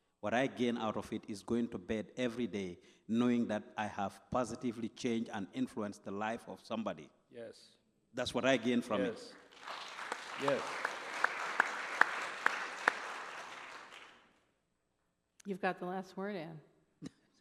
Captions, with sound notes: What I gain out of it is going to bed every day knowing that I have positively changed and influenced the life of somebody. Yes That's what I gain from it. (applause) Yes. (applause) You've got the last word, Anne.